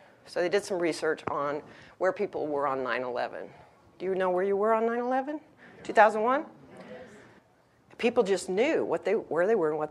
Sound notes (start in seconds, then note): 6.8 audience murmuring